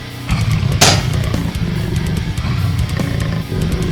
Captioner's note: legs clank